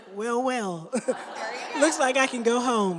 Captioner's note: laughter